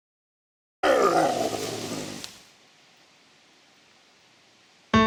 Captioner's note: Bigfoot growls